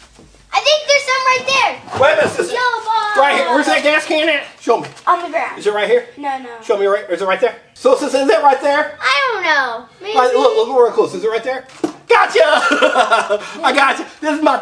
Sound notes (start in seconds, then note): 11.8 toy thumps; 12.4 laughs